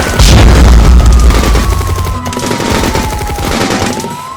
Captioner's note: fire whooshes